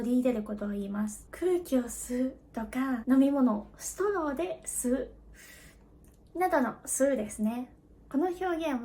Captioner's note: inhale air, breathe